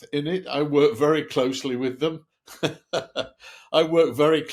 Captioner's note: laughs